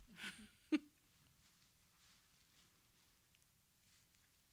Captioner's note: chuckles